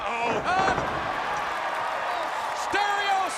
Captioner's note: crowd cheering